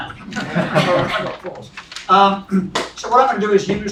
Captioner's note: laugh